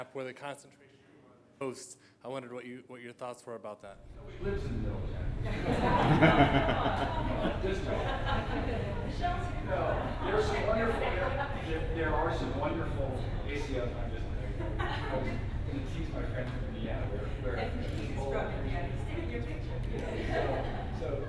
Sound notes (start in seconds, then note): 5.4 laughter; 20.0 laughter